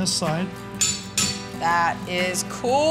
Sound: metal clanging

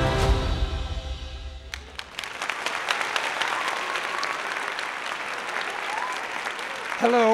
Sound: applause

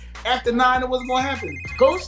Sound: phone ringing

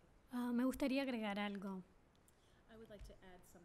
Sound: speaking spanish

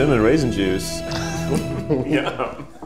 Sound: all giggle

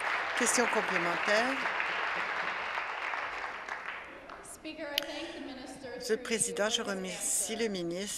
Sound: applause

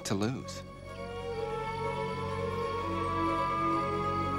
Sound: <i> distant siren blaring</i>

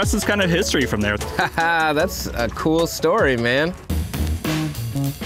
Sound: laughs; funky music

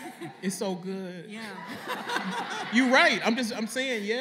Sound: laughter

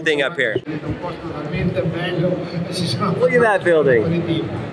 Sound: announcer speaking in Italian

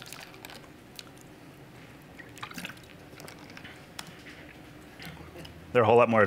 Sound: sips water

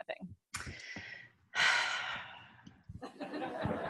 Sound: sighs

